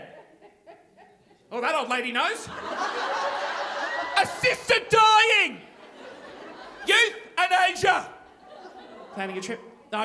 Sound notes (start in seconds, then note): 0.1 woman laughing; 2.3 audience laughing